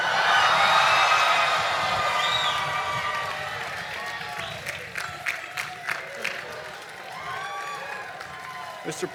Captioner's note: cheering and Applause